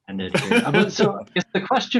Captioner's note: laughing